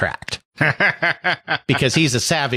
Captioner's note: laughs